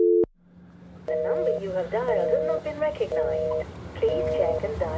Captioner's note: out of service phone dial tone; phone dial tone recording